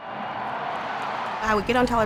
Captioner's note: cheering